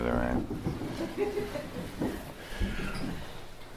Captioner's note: slight laughter